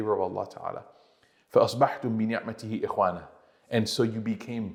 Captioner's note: Arabic